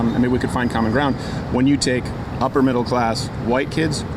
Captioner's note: none